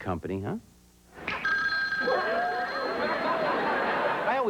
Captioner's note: ring